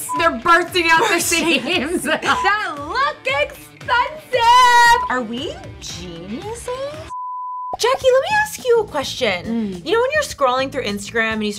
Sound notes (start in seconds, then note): 1.0 laughing; 2.3 blooper beep; 4.7 blooper beep; 7.1 blooper beep